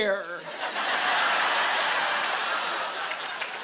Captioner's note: laughter